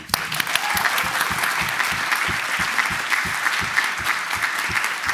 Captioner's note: applause